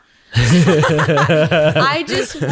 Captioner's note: all laughing